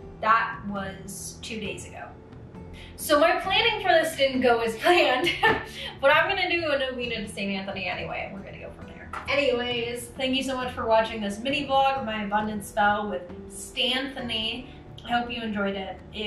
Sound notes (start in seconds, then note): 5.3 laughs